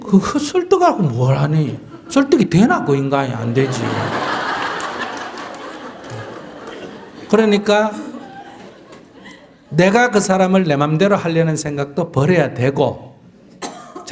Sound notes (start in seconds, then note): 3.3 audience Laughter